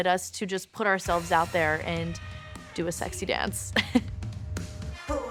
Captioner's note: laughs